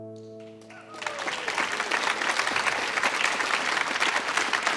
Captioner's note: audience applauds